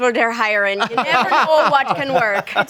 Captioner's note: group laughing